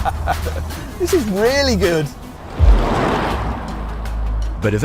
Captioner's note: laughs